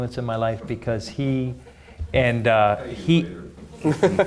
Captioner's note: audience chuckling; laughing